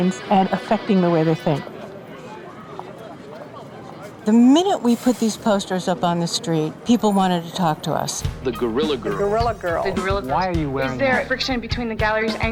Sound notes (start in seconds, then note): 2.3 people chattering